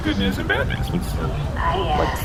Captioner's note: sighs